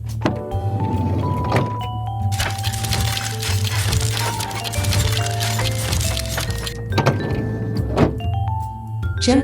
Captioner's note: doors open